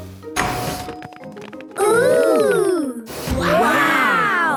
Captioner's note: door dings open